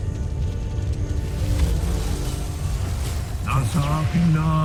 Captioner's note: music fades; spellbinding whoosh